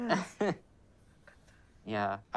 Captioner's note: laughs